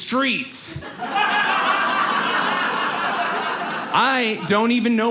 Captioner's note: audience laughs